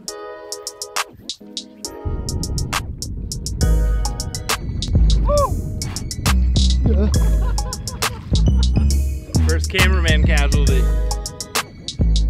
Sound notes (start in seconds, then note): 0.1 optimistic music; 6.8 man laughs